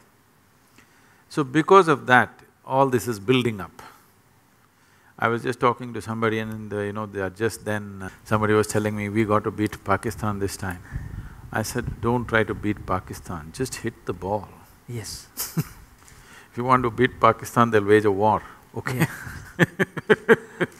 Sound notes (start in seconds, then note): 15.3 laughs